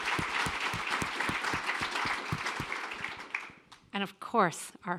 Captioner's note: applause